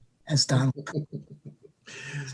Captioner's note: chuckling